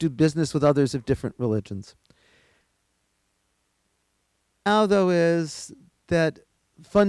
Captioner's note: audio cuts out